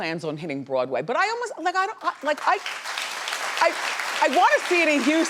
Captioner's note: audience clapping